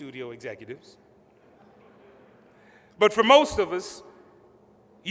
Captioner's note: laughter